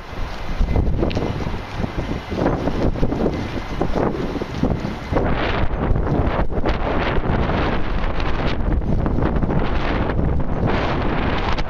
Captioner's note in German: Heftiger Wind!